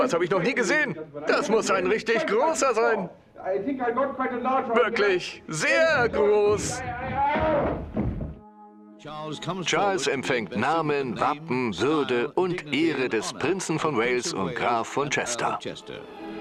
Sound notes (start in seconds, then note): 5.5 yells; 8.7 voiceover